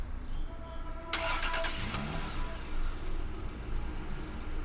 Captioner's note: engine turns over